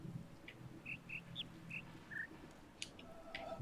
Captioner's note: bird chirps five notes